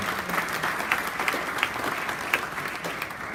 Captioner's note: applause